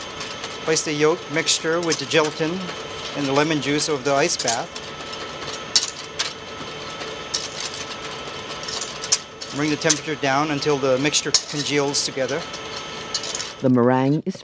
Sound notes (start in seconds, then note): 6.1 whisking ingredients; 14.2 voiceover